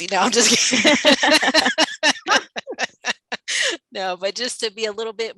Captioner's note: everyone laughing